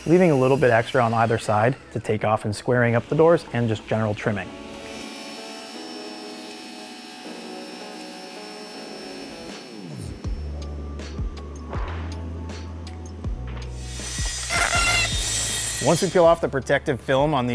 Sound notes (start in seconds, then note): 5.1 saw buzzing; 6.3 mellow music